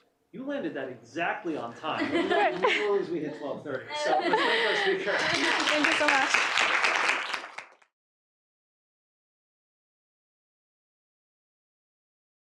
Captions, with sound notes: You landed that exactly on time. [LAUGHTER] Literally as we hit 12:30. So let's thank her. Thank you so much. [APPLAUSE]